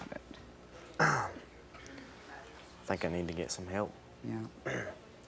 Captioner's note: clears throat